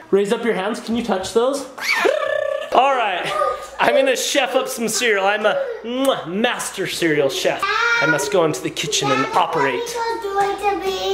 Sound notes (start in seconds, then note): 1.8 screams; 6.0 kisses